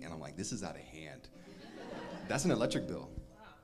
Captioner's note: crowd laughs